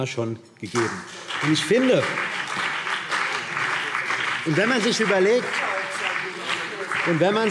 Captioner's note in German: Beifall BÜNDNIS 90/DIE GRÜNEN